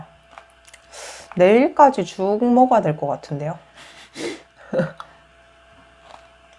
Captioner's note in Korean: 웃음